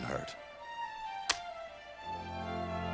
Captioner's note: coin flips